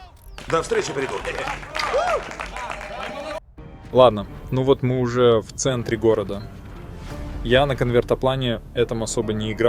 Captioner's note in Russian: ликование